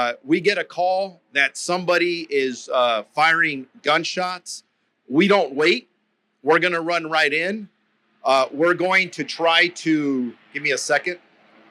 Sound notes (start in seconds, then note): 11.1 helicopter flying past